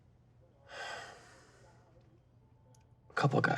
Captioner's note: sighs